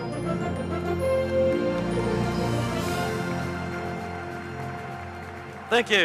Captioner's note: audience applauding